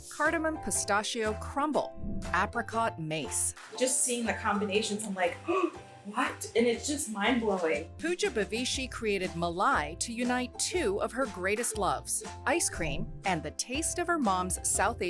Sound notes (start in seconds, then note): 5.4 gasps